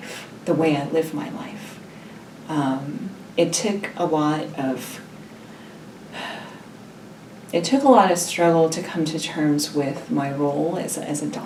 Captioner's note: sigh